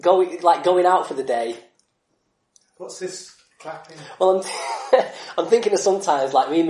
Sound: laughs

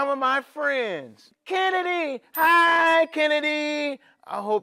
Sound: bell chimes

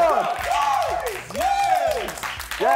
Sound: cheering

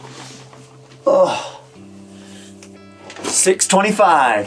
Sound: groans

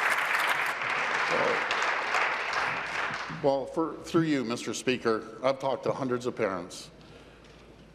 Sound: applause

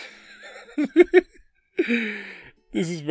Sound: giggling

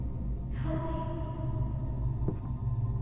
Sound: child's Whisper

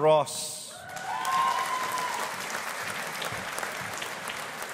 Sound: audience applauding

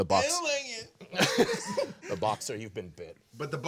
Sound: group laughing

